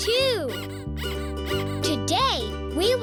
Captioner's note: toy squeaking